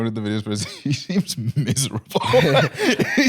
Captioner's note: laughs